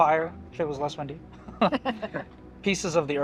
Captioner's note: people laughing